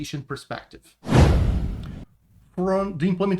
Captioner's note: transition whooshes